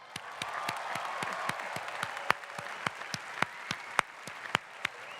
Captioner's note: cheering and clapping